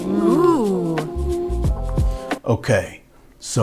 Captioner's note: woman exhales then moans